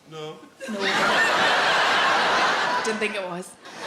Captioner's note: audience laughs